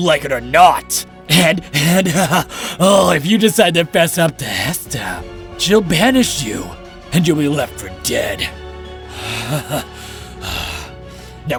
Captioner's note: laughing; smug laughter